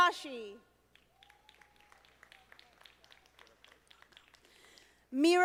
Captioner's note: audience applauding